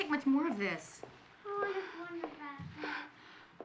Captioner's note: breath trembling